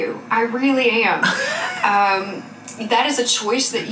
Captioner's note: laughing